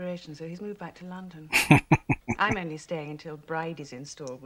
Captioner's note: chuckling